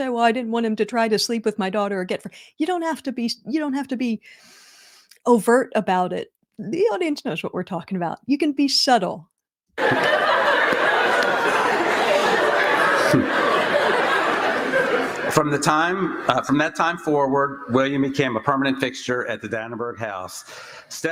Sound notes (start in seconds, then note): 13.0 laughter